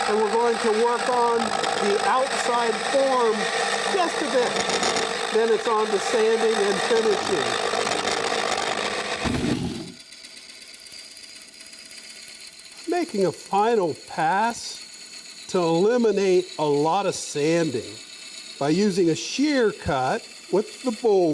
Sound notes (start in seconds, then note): 9.1 air whooshes; 10.8 light humming